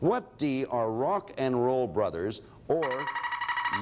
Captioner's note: alarm sounds